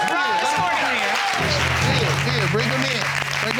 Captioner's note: audience exclaiming